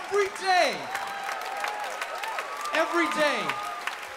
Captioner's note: audience cheers